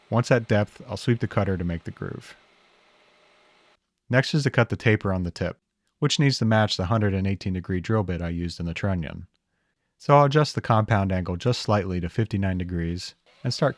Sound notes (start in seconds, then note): 2.6 machine whirring